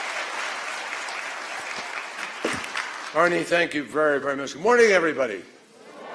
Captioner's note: applause